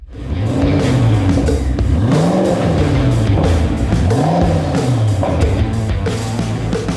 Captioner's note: engine revving; upbeat music